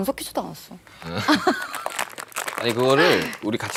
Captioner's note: haha